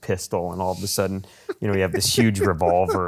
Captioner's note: laughs